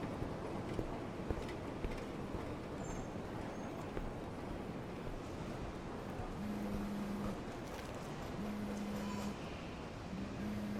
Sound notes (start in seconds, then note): 6.6 cellphone buzzing